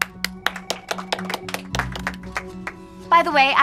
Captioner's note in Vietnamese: vỗ tay